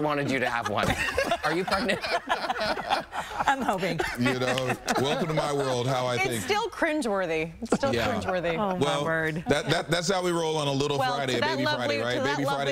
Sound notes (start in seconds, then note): 6.0 laughter